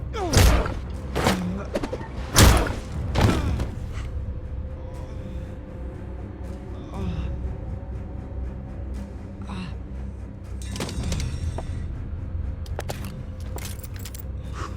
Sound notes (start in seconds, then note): 6.7 groaning